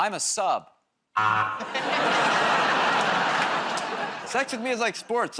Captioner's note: laughter, buzzer